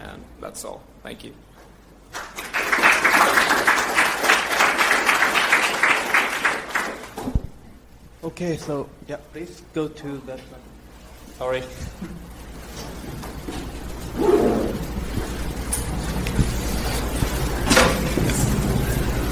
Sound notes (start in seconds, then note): 2.1 clapping